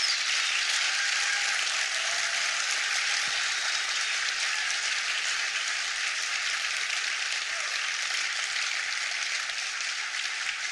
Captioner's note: applause